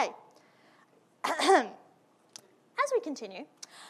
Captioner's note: clearing throat